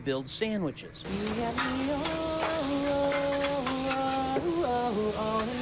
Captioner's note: vocalizing music